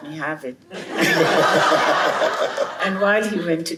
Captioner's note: laughter